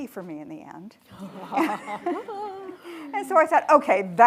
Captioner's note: attendees laughing